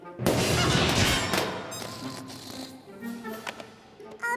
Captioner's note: crash!